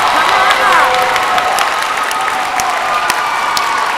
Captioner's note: applause; cheering